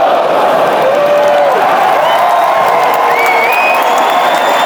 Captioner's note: crowd cheering